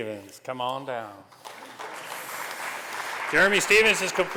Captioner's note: applause